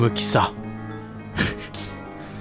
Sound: laugh

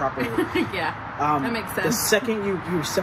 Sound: laughs

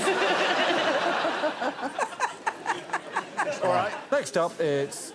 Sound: crowd laughs

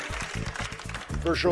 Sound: cheers and applause

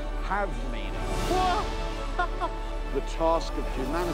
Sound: whoops and laughs

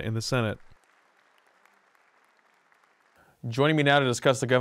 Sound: applause

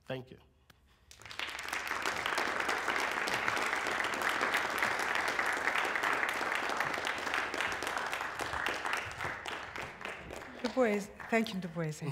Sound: applause

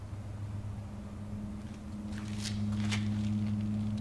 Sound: oil trickles

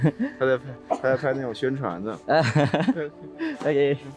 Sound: laugh; speaking Chinese; laugh

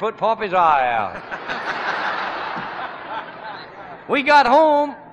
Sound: laughter

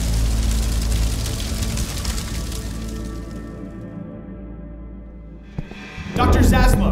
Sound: fire Sounds

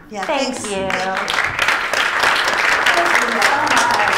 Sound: applause

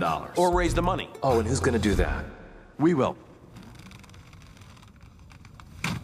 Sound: silence

